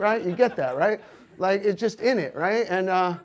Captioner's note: audience laughs